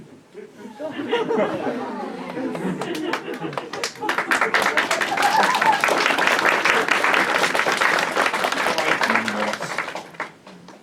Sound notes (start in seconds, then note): 0.3 laughter; 4.0 applause